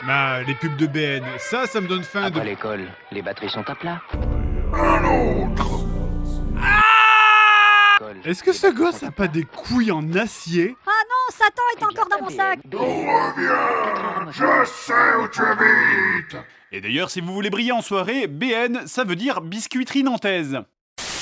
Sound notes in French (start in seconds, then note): 10.8 voix nasillarde du gosse; 13.1 voix Satan